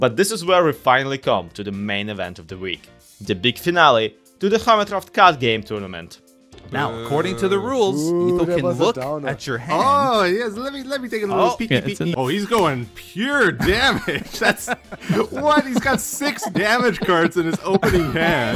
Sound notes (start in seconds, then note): 13.6 laughs